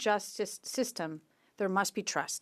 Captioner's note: speaking French